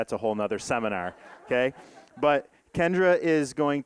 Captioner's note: audience laughing